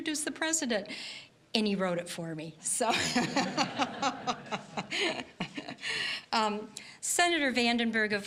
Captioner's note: all laughing